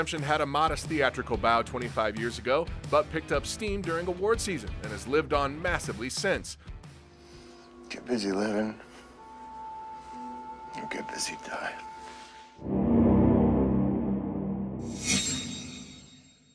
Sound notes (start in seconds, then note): 12.6 intense echoing; 14.9 metallic echoing